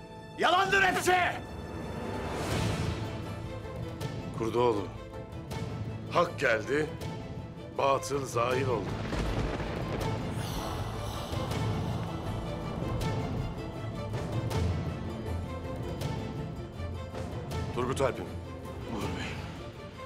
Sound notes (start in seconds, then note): 8.8 Gök gürültüsü efekti; 12.1 Müzik - Vurmalılar ve yaylılar